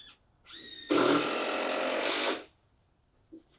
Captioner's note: drill spins